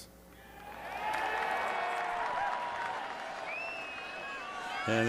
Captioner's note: cheering